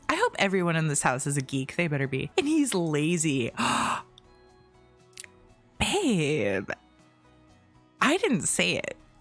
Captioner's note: gasp